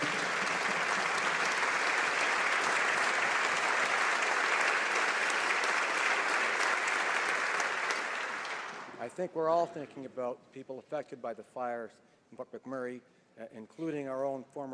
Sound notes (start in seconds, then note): 3.0 applause